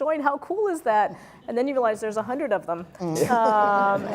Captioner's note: laugh